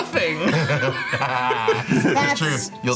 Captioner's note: group laughing